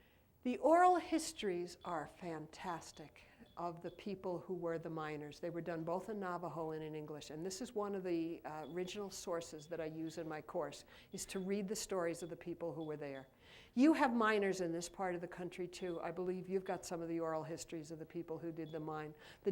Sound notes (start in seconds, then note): none